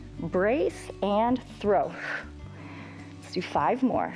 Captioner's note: exhales